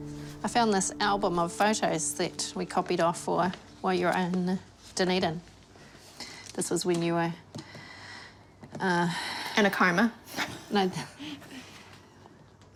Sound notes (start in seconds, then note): 8.2 inhales; 10.4 chuckles